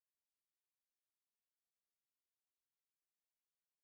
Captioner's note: none